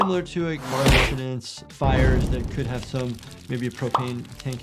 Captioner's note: engine roars; flames crackle